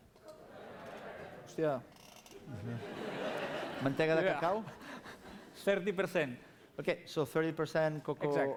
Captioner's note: non-english speech